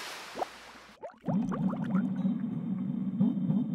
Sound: sound of bubbles

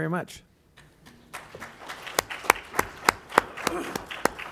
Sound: applause

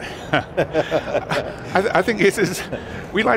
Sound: both laughing

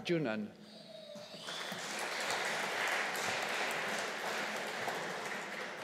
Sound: audience applauding

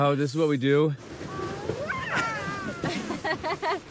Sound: laughs

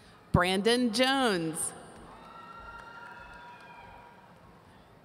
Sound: audience cheering

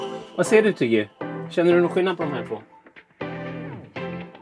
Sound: Speaking Swedish to Tiggy

